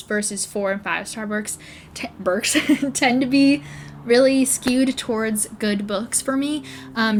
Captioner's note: laughs